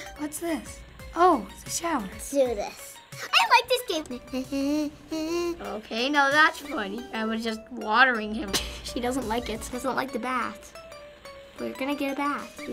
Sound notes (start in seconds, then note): 4.0 humming; 8.5 chuckles